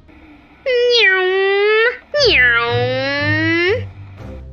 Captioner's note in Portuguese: Barulhos de aviões com a boca